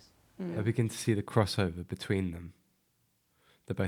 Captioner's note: voice-over